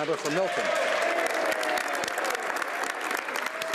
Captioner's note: speaking French